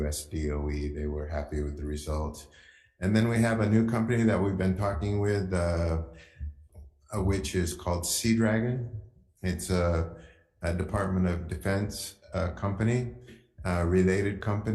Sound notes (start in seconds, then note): none